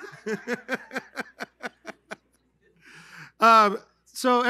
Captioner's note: laughter